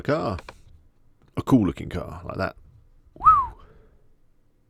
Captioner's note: whistles